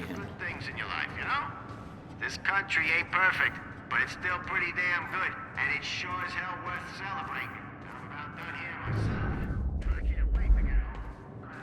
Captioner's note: on the radio